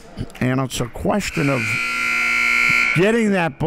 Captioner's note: clock buzzes